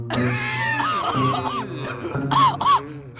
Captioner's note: coughing